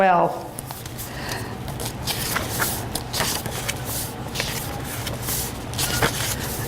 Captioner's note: sound of pages turning